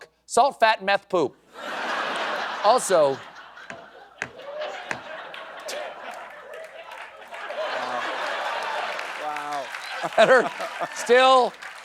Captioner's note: laughter